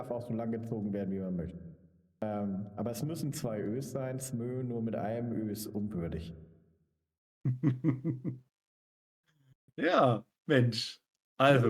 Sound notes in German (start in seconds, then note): 7.4 gelächter